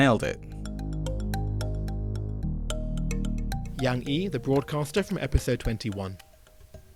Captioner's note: voiceover